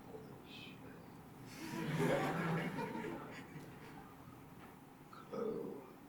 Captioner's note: laughter